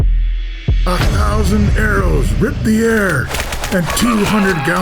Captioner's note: throbbing heart beat; arrows and battle cries